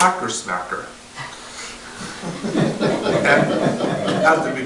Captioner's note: audience laughter